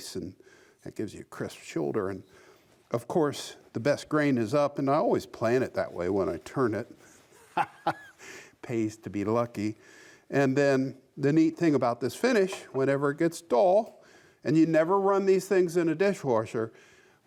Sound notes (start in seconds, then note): 7.4 laughs